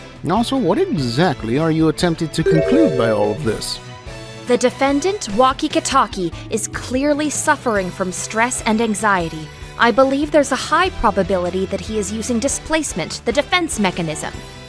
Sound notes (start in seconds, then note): none